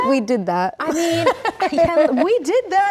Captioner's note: Rachel laughs